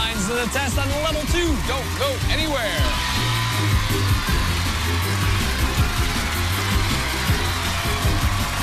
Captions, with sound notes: ON LEVEL 2. DON'T GO ANYWHERE. [cheers and applause]